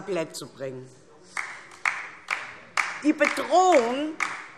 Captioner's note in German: Beifall DIE LINKE